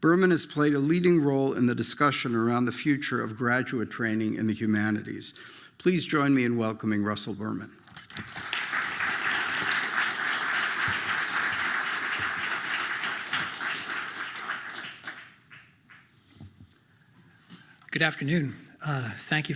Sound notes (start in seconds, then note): 8.0 applause